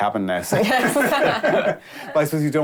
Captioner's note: they laugh